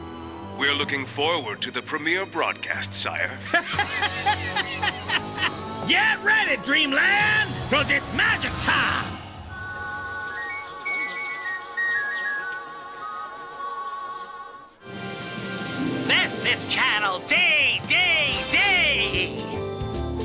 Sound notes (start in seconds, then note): 3.5 laughing; 9.6 birds chirping; 20.0 jazzy music playing